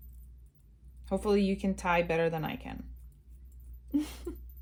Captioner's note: laughs